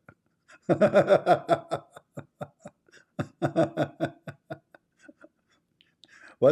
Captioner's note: Ketawa